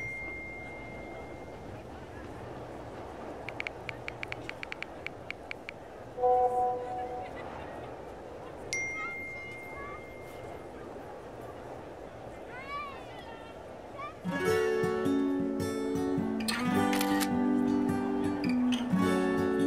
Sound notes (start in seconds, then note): 16.8 camera clicking